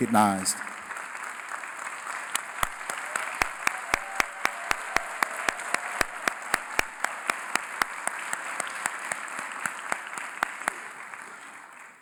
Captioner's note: applause